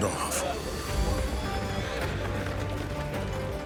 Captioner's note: horses neigh, approaching